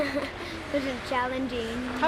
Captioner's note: laughter